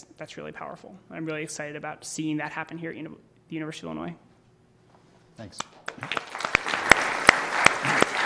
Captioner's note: applause